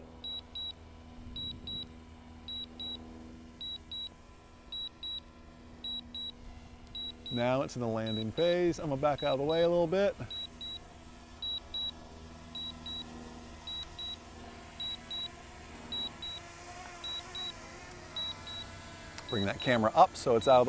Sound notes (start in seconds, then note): 0.2 beeping; 12.4 beeping